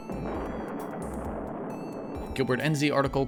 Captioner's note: cannon blasting